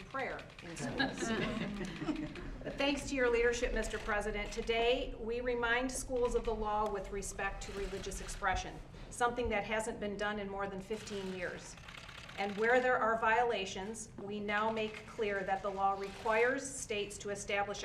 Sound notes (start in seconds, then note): 0.8 laughter